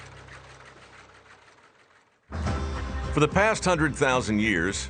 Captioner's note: loom whirring